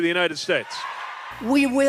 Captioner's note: cheering and applause